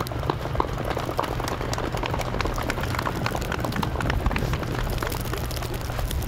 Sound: muffled applause

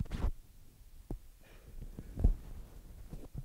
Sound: mic rustling

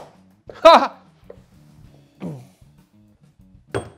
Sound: chuckles

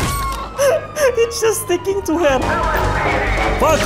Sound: laugh

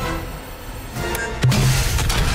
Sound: beeping

